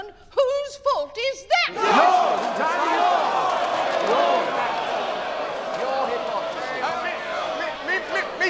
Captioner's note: soundbite of shouting